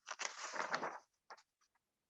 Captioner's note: papers rustling